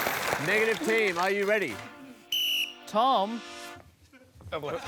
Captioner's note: blows whistle